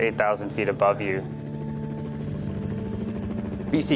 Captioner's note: helicopter blades whirring